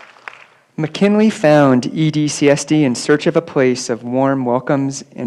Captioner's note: applause